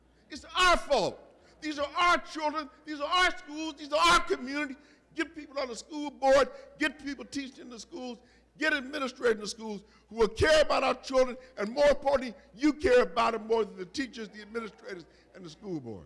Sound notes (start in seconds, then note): none